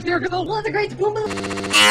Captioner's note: higher-pitched; harsh buzzy noise